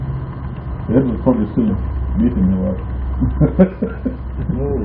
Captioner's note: laughing